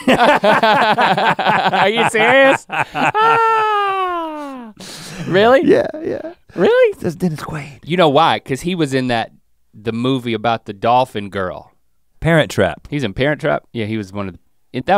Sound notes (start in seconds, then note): 0.0 both laughing; 2.7 sighs happily